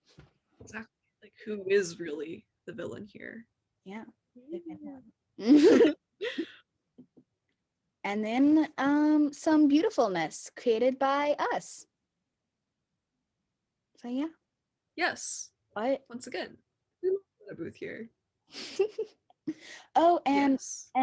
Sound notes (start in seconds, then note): 5.4 fond chuckle; 12.1 silence; 18.5 chuckle